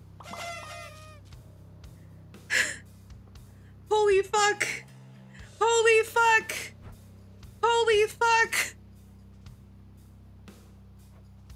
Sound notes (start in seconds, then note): 2.5 gasp